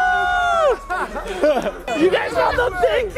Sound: people laughing

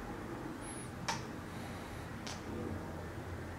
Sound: deep breath

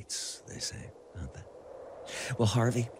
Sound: wind whistling

